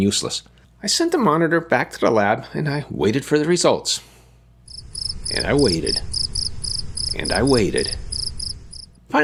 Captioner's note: sound of crickets